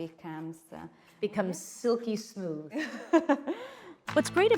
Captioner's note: laughs